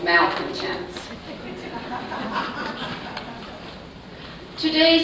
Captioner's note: laughter